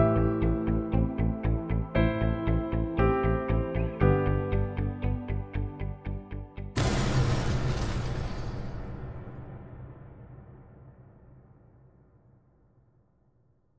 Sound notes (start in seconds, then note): 6.8 fire thundering; 6.8 glass shattering